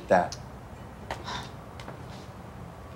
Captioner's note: Tiffany sighs